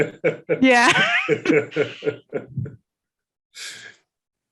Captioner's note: laughs